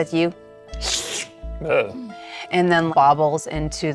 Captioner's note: slurping